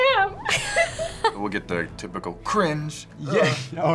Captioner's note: laughs